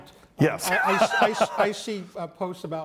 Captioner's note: laughs